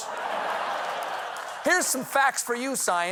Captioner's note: laughter